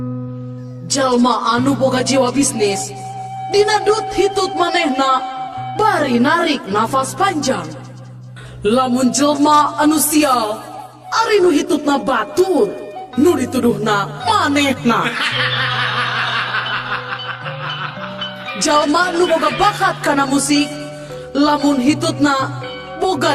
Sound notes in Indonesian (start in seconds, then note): 15.0 tertawa